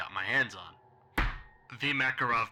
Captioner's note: thunk